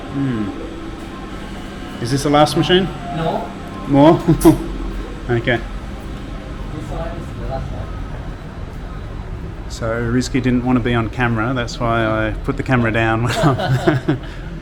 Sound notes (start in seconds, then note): 4.0 laughing; 13.2 laughing; 13.2 he laughs